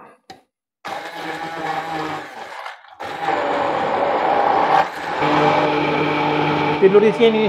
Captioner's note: mixer sound